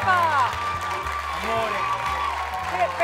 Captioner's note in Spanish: Ovación